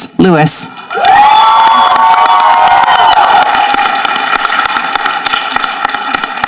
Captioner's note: people applauding and cheering